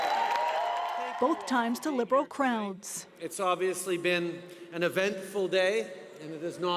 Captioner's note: cheers and Applause